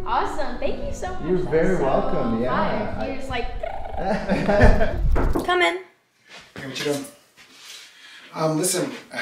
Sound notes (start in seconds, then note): 4.6 door knocking; 4.6 trills